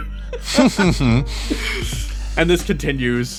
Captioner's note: laughs